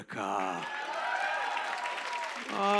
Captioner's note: cheers and applause